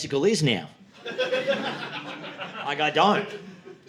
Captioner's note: audience laughing